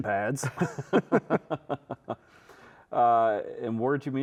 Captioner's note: both chuckling